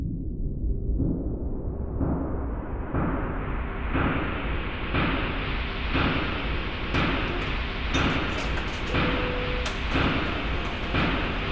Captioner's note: sounds of machinery, traffic noise etc